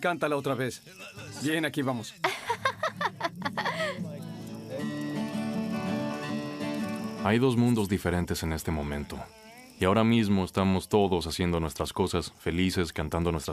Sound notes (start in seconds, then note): 2.2 laughing